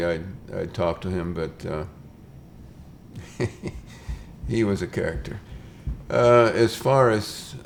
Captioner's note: chuckles